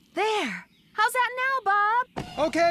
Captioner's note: shouting